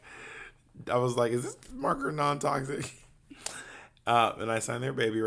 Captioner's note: laughs